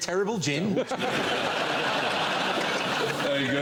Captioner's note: laughter